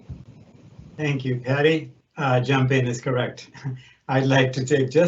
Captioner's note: laughs